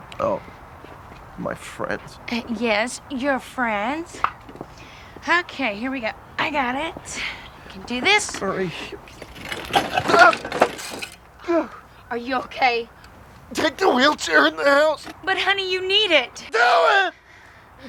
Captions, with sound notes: - Oh, my friends. - Yes, your friends. Okay, here we go. I got it. Can do this. - Marie. (chair thuds) (Curtis groaning) - Are you okay? - Take the wheelchair in the house. - But honey, you need it. - Do it!